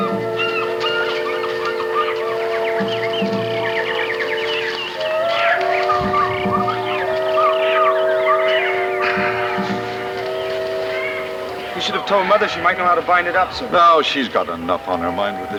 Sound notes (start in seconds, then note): 4.1 wind howling; 7.9 pensive music